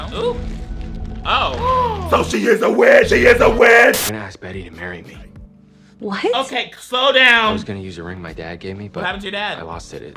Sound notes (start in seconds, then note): 1.3 gasps